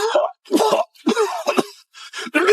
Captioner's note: cough, cough